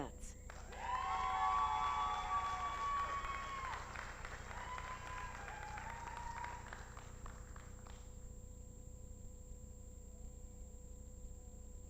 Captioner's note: applause